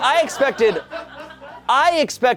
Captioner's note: audience laughing